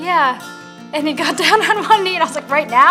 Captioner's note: laughing